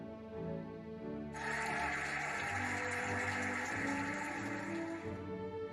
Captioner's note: cheering and applauding